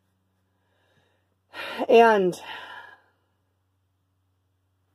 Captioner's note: sigh